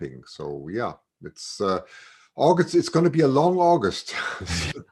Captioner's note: laughs